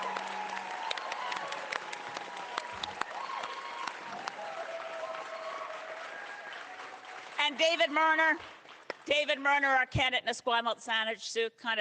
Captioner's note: cheering